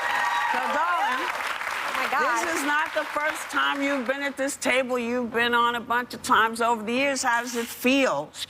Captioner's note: cheers and applause